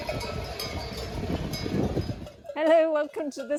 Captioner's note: sheep bells